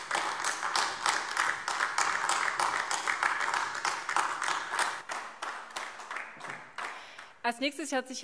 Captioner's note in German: Beifall AfD